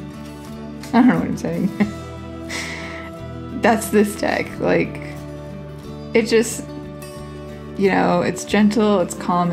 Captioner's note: laugh